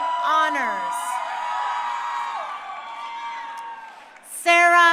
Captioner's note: crowd cheering